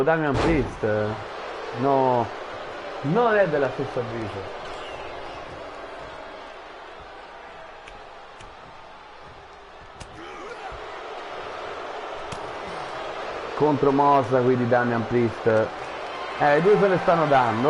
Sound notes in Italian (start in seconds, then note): 6.1 Applauso